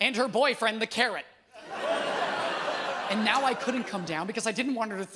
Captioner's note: audience groans